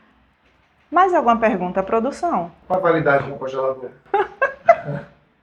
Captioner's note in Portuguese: risadas